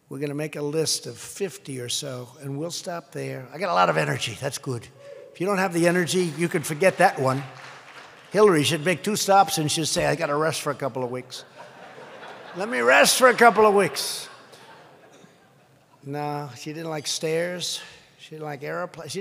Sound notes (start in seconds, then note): 6.0 applause; 11.4 laughter